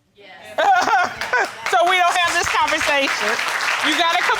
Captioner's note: laughs; audience applauds